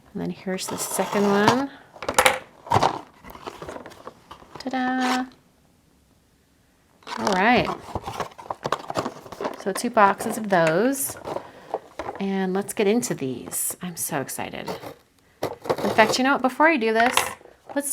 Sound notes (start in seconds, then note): 2.6 box popping open